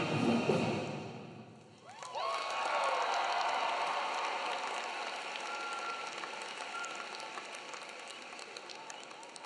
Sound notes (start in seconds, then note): 1.8 audience clapping; 1.8 audience cheering